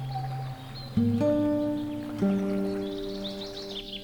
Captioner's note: birds tweet